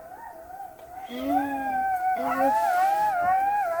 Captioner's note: jackals howling; jackals howling